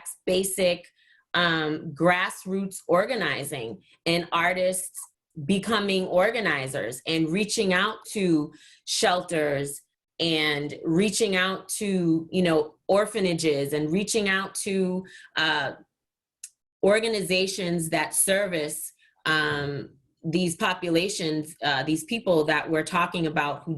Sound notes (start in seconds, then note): none